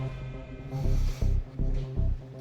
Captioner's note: inhales